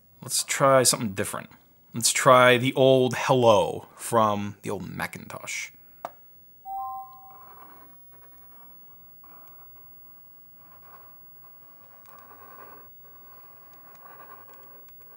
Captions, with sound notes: Let's try something different. Let's try the old hello from the old Macintosh. (chiming) (pencil scraping on a tablet)